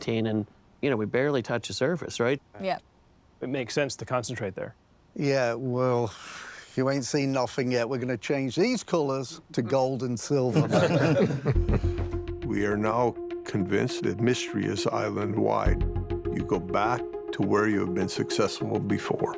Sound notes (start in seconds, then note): 6.0 sighs; 10.5 laughter